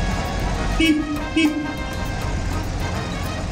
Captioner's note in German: Hupen